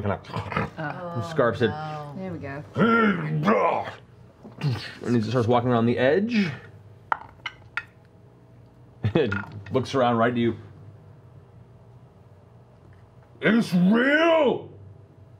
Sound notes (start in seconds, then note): 0.0 deep laughter; 2.8 grunts